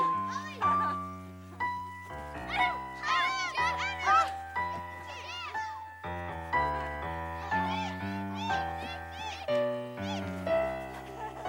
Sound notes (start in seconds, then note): 2.4 boys shouting